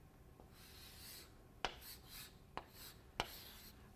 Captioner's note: chalk scratching